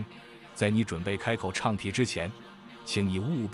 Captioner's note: chanting